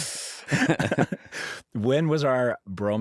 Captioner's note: laughter